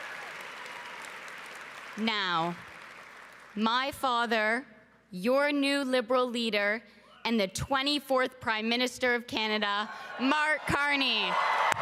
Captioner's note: cheering and Applause